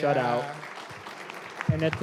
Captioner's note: applause